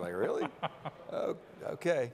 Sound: laughing

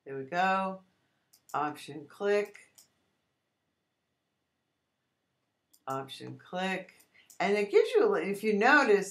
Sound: clicking

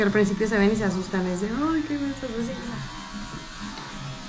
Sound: speaking in Spanish

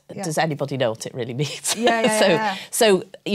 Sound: laughs

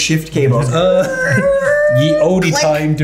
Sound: imitating squeaking sounds

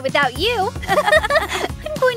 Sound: both girls laugh

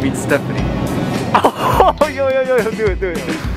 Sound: laughs

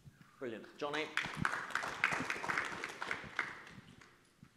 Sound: audience claps

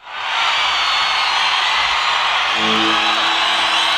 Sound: audience cheering

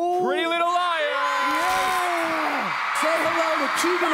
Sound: audience cheers

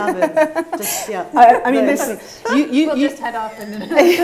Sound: laughs

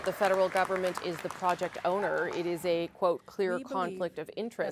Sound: applause

